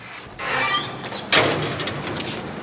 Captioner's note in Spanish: puerta se cierra